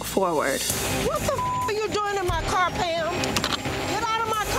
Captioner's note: beep